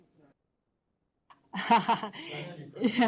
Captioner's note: laughter